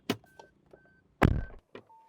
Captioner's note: door Thud